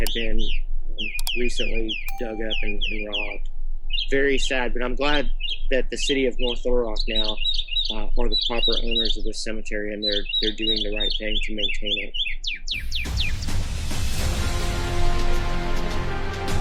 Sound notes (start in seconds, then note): 11.6 birds chirping; 12.8 dramatic music